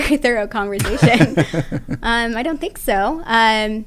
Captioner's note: laugh